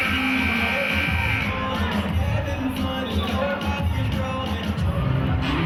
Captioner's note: buzzer sounding and cheering